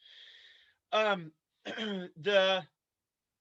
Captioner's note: clears throat